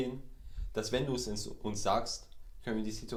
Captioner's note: none